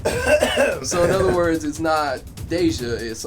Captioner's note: clears throat